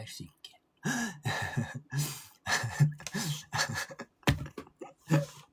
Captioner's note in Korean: 웃음